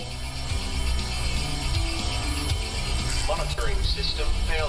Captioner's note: alarms & Bells